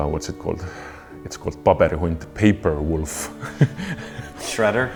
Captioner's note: laughs